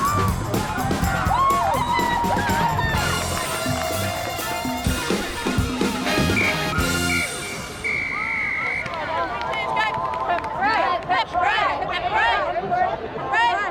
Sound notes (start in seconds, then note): 0.1 cheering and applause; 6.0 whistle blowing; 11.0 chanting